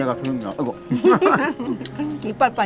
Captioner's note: both laughing